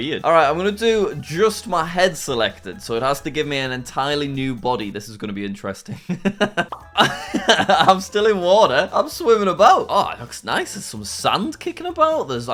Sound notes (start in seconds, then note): 6.0 laughs